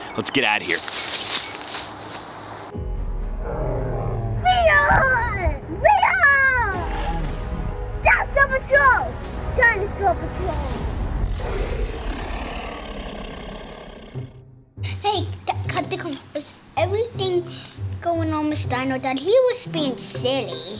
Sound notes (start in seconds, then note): 0.2 sticks and leaves shuffling; 11.2 dinosaur roar; 14.8 cheerful music